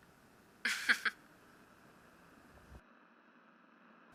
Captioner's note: laughs